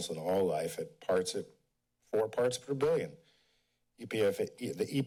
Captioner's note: none